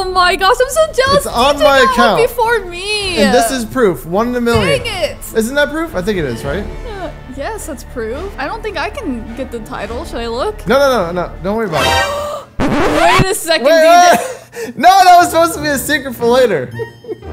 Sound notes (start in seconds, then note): 14.4 gasp